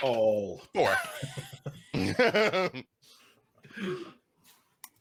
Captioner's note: laughing